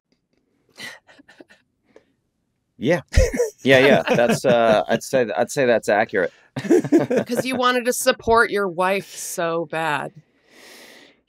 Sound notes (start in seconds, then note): 1.0 laughs